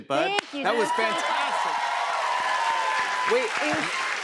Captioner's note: cheers and applause